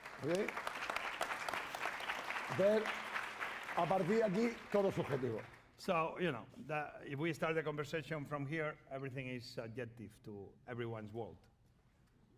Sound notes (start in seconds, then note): 0.0 applause